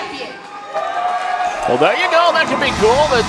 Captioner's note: audience cheering